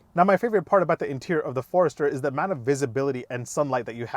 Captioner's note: none